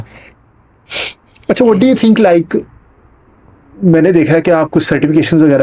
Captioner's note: nasal sound